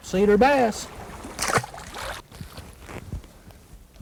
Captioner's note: splash